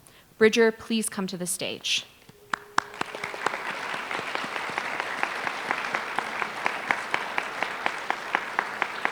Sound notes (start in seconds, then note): 2.4 applause